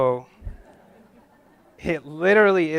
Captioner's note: audience laughs